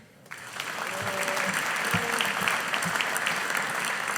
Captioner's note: audience applauding